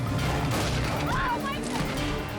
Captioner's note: lion thuds; rifle blasts